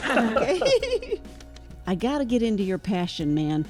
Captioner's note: everyone laughs